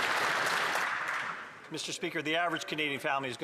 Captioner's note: some Applause